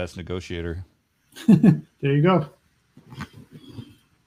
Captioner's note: laughs